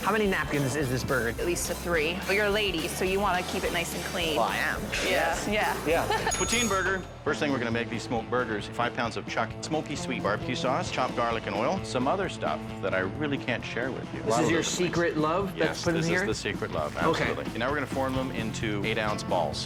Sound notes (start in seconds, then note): 5.8 laughs; 6.2 bell dings